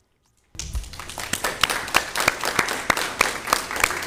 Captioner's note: all clapping